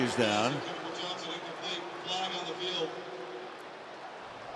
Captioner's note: pa announcement